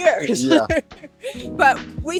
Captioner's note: laughing